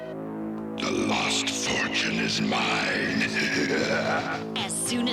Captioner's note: evil laughter